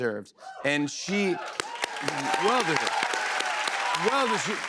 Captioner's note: cheers and applause